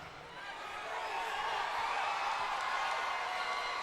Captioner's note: crowd cheers